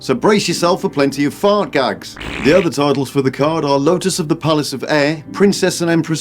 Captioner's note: fart sound